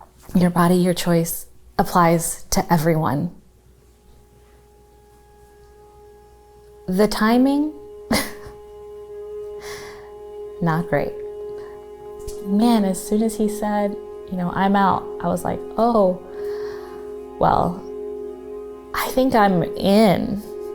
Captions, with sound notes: Your body, your choice applies to everyone. (somber music) The timing, (laughs) not great. Man, as soon as he said, you know, "I'm out," I was like, "Oh, well, I think I'm in."